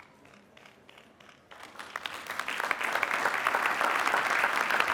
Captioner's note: applause